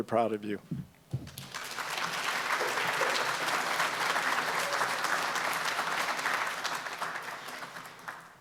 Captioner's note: applause